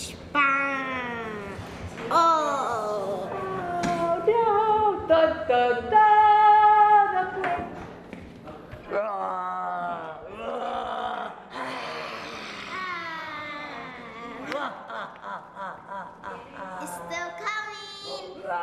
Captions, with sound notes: Ohh! Duh duh duh! [Growling] [Laughing] It's still coming!